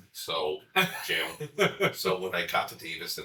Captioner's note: chuckling